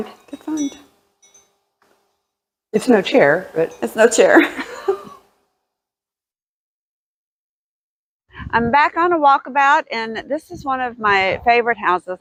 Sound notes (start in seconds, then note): 4.5 laugh